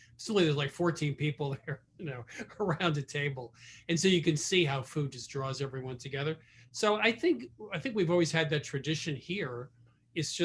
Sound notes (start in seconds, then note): 2.1 laughing